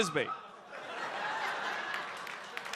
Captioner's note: audience laughs; audience applauds